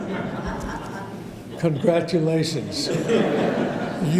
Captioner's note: audience laughter